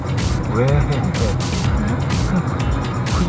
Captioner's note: laughing